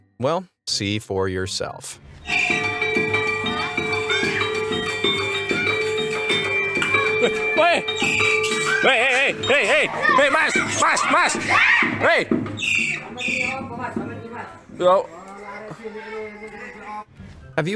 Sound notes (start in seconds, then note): 3.5 bells ringing; 10.6 man yelling in foreign language; 12.2 monkey chirping; 14.5 people speaking in foreign language